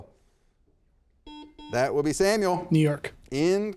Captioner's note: buzzer beeps